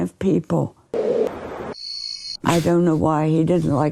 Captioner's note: wind whistling; birds chirping